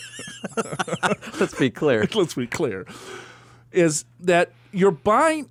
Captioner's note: laughs